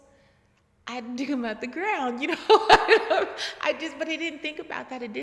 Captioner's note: laughing